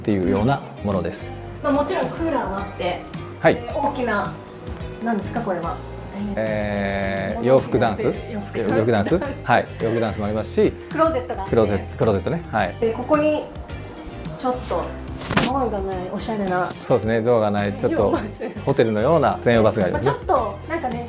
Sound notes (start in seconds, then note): 10.3 laughs